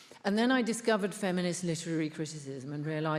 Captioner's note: none